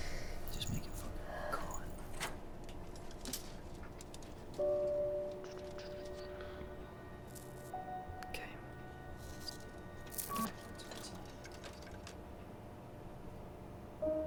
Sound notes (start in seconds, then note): 4.5 depressing piano music; 6.4 sounds of technical work; 10.3 soft *beep; 14.0 depressing piano music